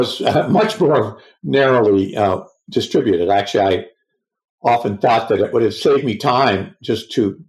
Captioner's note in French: rires